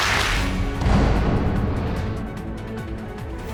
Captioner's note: audience applauding